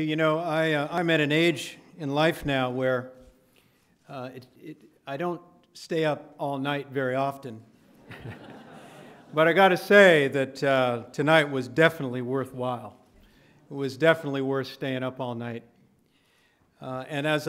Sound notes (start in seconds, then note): 7.9 laughter